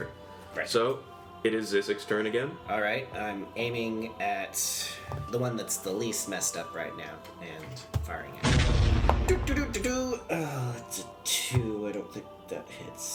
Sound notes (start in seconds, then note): 8.4 explosion sound; 9.1 sings